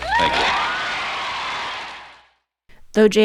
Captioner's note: people cheering